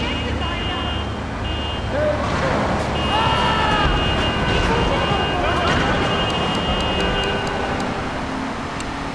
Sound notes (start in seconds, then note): 1.5 yelling; 7.1 tires screeching